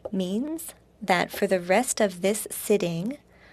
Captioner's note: speaking in French